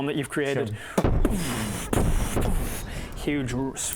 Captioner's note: boof boof boof